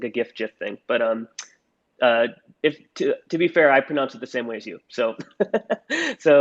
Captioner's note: laughs